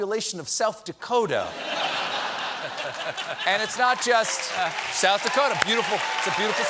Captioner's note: laughter